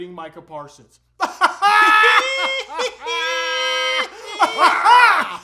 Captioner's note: elite troll laughter; very strange laughter